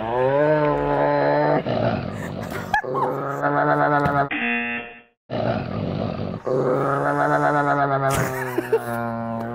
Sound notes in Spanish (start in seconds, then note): 1.8 zumbador; 2.1 ambos se ríen; 5.3 gruñido del perro distorsionado; 5.3 perro gruñendo; 8.1 Risas